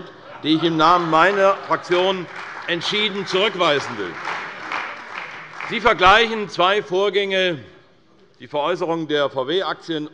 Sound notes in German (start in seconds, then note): 4.1 Beifall bei Abgeordneten der CDU - Lachen bei Abgeordneten der SPD